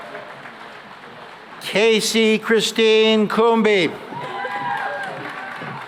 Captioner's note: cheering and applause